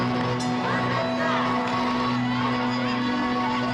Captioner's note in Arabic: رنين الجرس